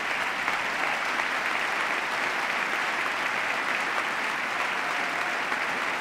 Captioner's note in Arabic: تصفيق